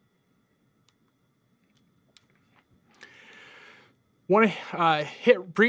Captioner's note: computer mouse clicking